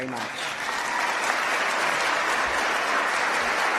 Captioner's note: applause